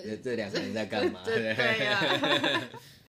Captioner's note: ha ha